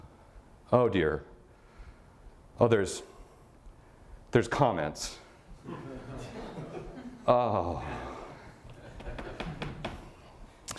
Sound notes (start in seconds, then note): 5.6 audience laughter